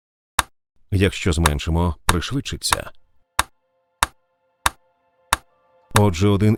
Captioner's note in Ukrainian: метроном у сповільненому темпі; метроном у прискоренному темпі